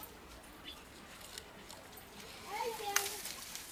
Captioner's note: ambient village sounds